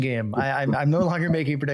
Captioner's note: chuckles